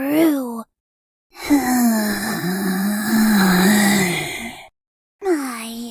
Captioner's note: creepy ghost sounds